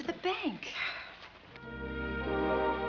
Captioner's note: Lizzie sighs; light music